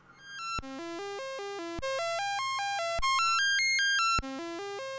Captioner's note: rising and falling computer tones